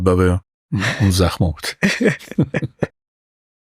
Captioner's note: laughs